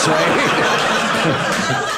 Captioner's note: audience laughing